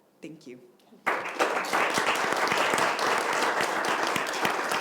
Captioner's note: audience applauds